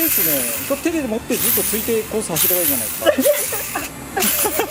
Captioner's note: laughs